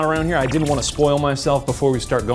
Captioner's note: digital pulsing